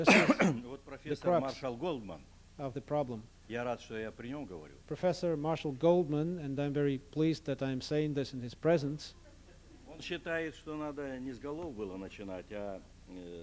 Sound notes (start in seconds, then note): 4.0 non-english speech; 11.2 non-english speech